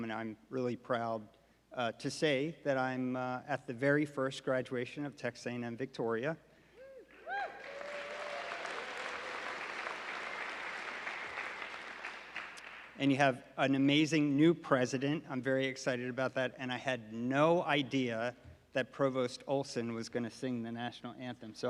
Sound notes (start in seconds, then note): 7.1 audience applauding